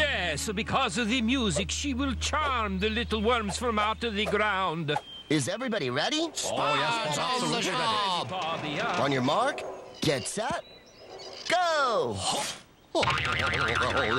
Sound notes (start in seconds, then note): 7.7 excited Chatter; 13.1 twang!